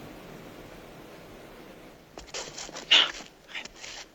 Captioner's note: scuffling